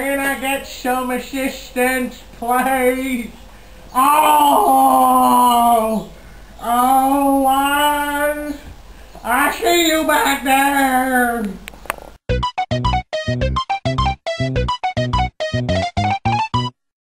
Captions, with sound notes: Can I get some assistance? Please? *groaning* I see you back there!